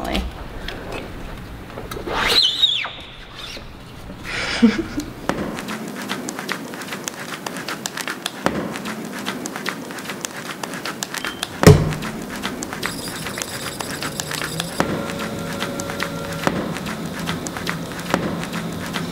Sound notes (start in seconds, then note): 5.2 sound of clay on table; 13.4 sound of clay on machine